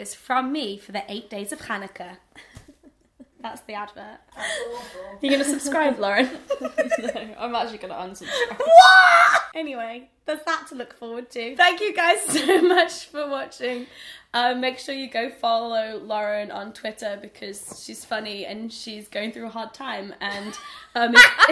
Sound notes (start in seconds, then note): 6.2 laughter